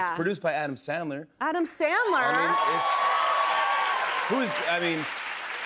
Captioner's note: cheers and applause